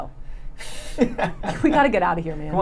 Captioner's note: laughing